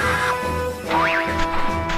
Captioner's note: boing